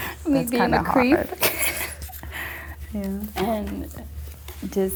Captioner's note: laughing